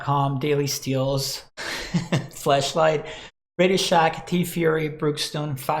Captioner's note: laughs